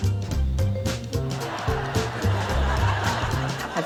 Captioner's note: laughter